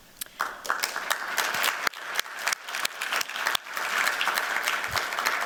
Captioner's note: applause